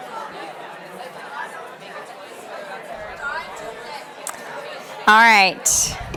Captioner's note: participants chattering